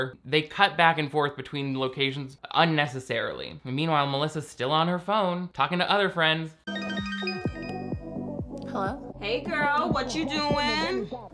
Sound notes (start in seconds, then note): 6.6 phone ringing; 10.4 upbeat hip hop music